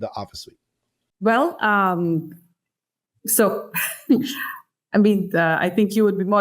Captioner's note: laughs